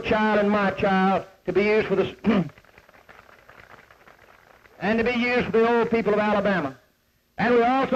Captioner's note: clears throat